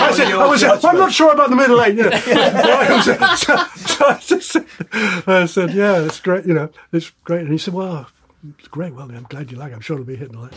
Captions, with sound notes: [laughter] I wouldn't say "Well, I'm not sure about the middle 8, you know" [laughter] So I just said "Yeah, it's great, you know, it's great" and he said "Well, that's great, well I'm glad you like it, I'm sure it'll be a hit" and all that.